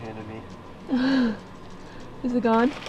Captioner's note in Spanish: se ríe